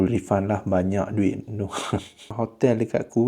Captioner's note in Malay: ketawa